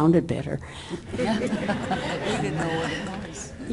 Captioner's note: audience laughter